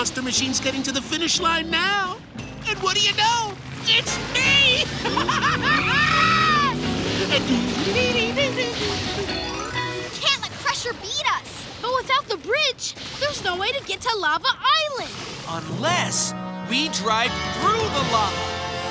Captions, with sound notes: getting to the finish line now! And what do you know, it's me! [laughing] We can't let Crusher beat us! But without the bridge, there's no way to get to Lava Island! Unless we drive through the lava!